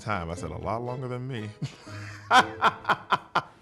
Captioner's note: laughs